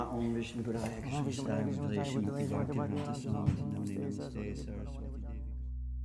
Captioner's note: praying in foreign language